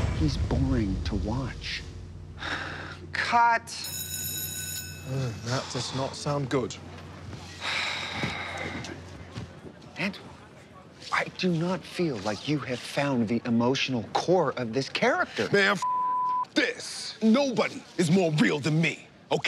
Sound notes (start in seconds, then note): 2.5 sighs; 3.8 bell ringing; 7.6 sighs